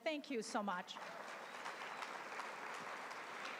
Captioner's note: applause